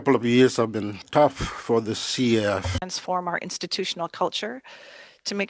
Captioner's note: speaking French